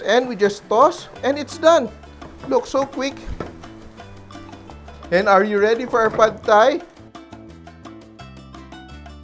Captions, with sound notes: And we just toss, -- and it's done! Look, so quick! [Sizzle] [Knock] And are you ready for our Pad Thai?